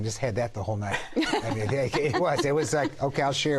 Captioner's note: laughter